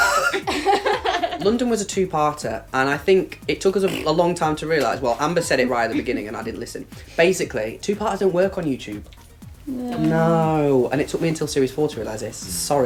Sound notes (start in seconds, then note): 3.8 blows raspberry